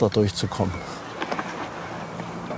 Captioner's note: birds chirping